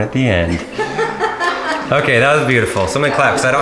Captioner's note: laughing